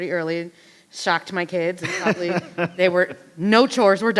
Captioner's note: laughs